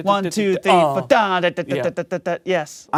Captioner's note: imitates bassline